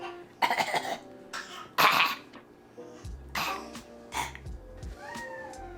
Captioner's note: mocking Bean’s fake cough